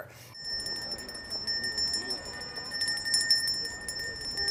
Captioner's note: bell ringing